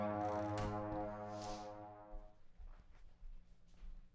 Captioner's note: door thudding